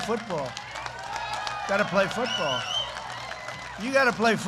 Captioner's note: applause